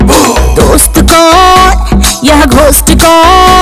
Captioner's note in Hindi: none